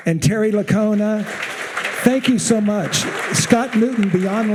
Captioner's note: audience applauding